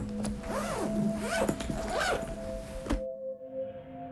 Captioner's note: bag opens